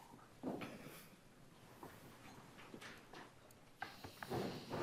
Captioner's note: shoes pattering